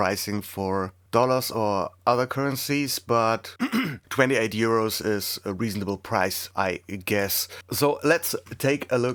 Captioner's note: clears throat